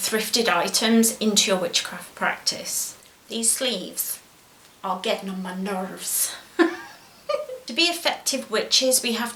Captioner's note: laughs